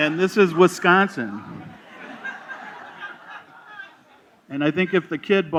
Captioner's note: laughter